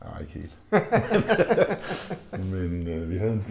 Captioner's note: bursting laughter